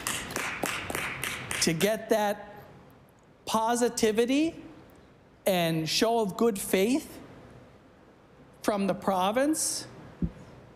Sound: applause

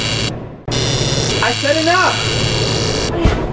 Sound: laser buzzes; laser buzzes

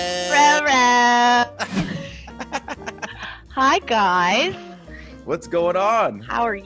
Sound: laugh

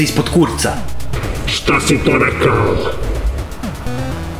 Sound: Robotic voice

